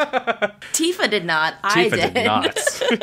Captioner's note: laughs